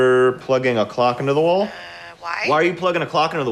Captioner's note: on phone